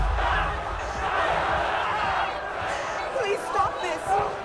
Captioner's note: angry crowd shouting